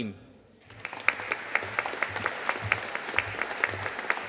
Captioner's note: audience applauding